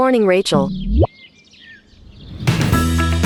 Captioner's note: birds tweeting